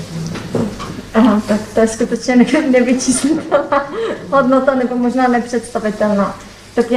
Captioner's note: laughs